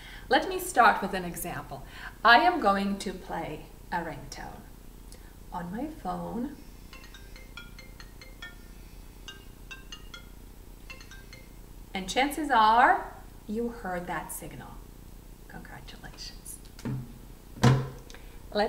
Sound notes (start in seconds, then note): 6.9 ringtone playing on phone